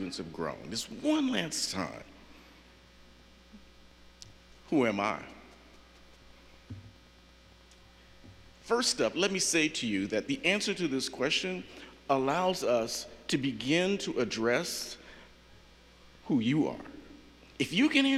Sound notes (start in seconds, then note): none